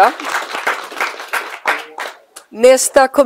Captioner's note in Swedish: Applåder